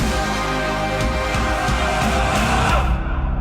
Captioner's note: soldiers yelling